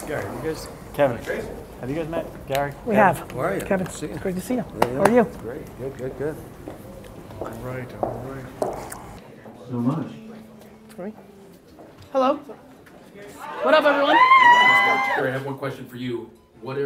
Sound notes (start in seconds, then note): 13.5 cheering